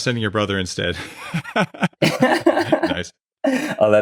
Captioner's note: both laughing